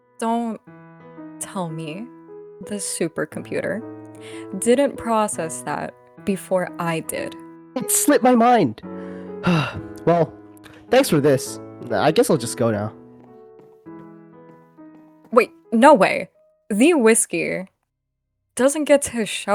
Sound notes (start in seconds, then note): 9.0 sigh